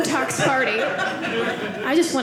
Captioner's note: audience laughing